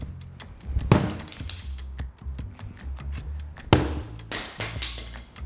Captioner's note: gentle upbeat music; tools clattering